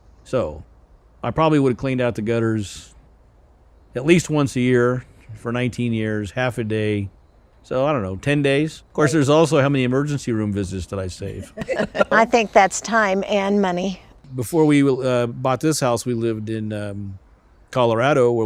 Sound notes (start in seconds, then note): 10.9 laughing